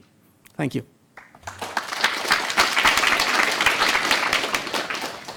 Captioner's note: applause